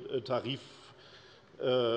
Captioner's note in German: none